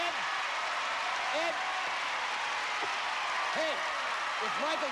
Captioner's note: cheers and applause